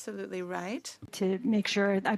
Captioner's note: speaking French